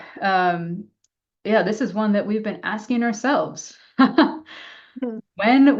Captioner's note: laughs